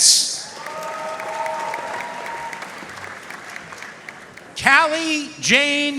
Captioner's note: audience cheering and applauding